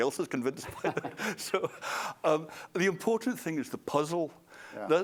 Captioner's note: laughter